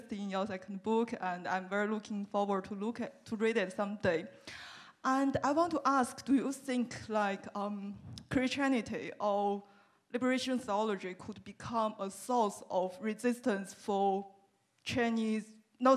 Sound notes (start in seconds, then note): none